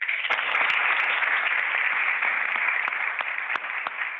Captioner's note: audience applauds